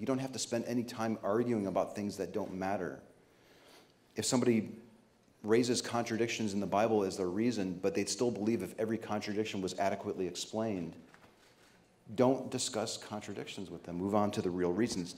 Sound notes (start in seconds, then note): none